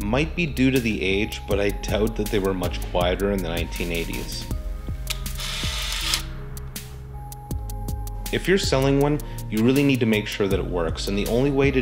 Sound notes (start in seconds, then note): 5.1 shutter Fires